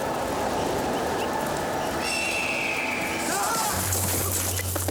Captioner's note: wind howling; squawk calling; crashing; wailing